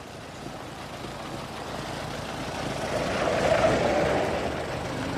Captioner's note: engine approaches